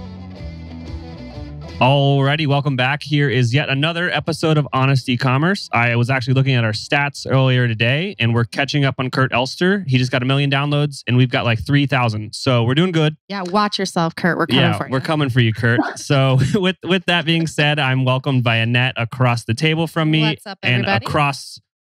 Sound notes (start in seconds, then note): 14.5 laughs